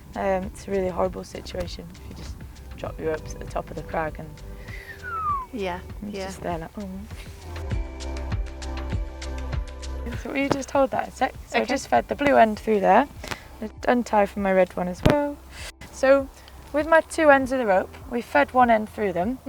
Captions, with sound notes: Um, it's really horrible situation if you just drop your top of the crag and (whistles). - Yeah. - And you're just there like "oh..." (laughs) So will you just hold that a sec? So I just fed the blue end through there, I'm going to untie from my red one as well... So with my two ends of the rope, we fed one end through them.